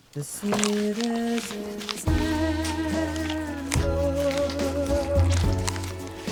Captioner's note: furiously eating apple